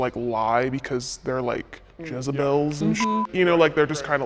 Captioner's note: beep